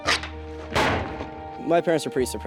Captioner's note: door clangs